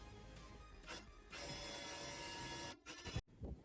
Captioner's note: disc drive whirring